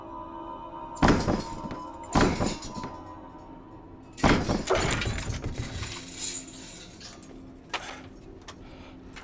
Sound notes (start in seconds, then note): 1.0 thudding